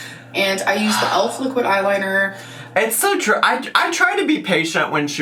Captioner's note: none